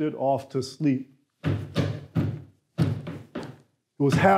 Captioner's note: footsteps clanging